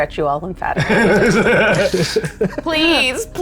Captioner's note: laughing